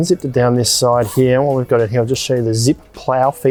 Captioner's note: zip rasping